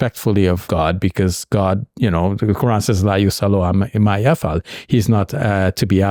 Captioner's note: speaking Arabic